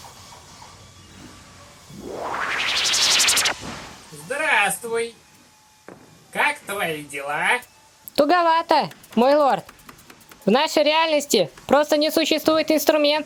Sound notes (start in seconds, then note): 1.9 teleportation rustling